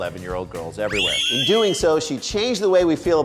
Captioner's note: squeals